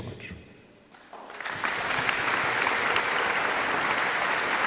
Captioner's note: audience clapping